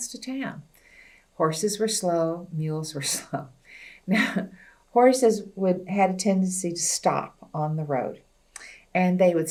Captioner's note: laughs